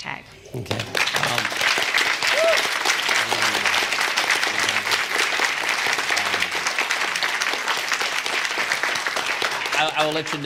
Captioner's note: applause